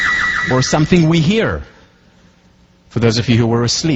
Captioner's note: sound: car alarm set off in the background